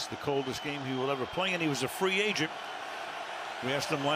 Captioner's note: cheering